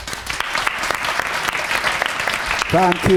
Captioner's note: applause